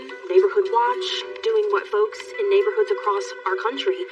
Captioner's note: none